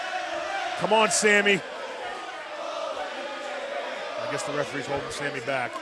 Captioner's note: fans chanting